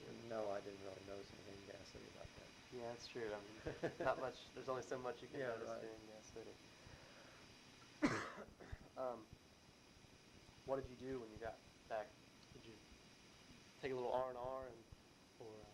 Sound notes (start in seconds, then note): 8.0 coughs